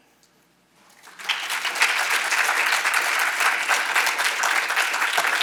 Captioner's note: audience applauding